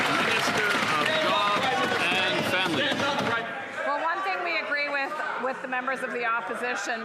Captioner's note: some Applause